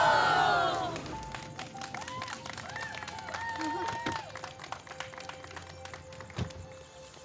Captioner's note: crowd cheering; crowd clapping